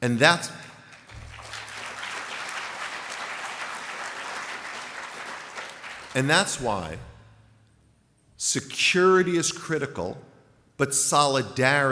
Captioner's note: applause